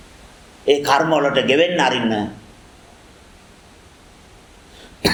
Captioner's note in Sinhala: උගුර කෑරීම